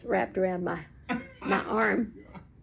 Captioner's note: laughs